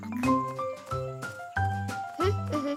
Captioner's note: humming